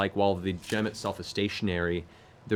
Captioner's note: none